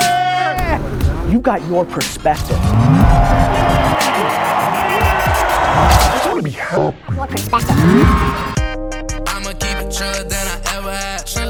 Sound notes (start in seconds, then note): 0.0 hip hop music; 3.7 audience cheers; 7.1 hip hop music